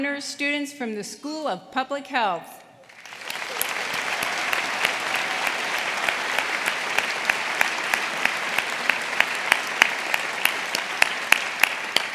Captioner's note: applause